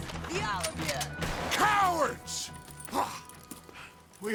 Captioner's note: grunts